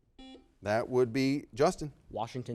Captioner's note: buzzer beeping